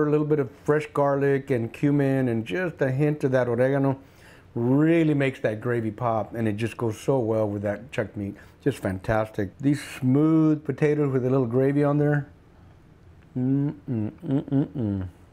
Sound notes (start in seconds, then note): none